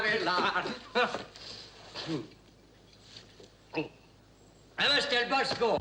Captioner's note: Monsieur Vanet chuckles